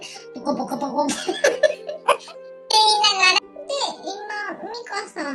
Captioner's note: laughs